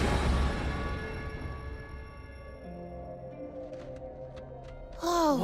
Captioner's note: high-pitched voice